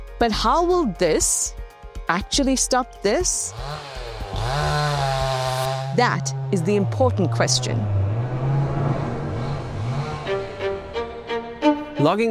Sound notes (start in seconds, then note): 3.8 chainsaw roaring; 9.9 gentle music